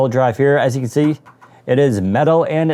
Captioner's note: light Tapping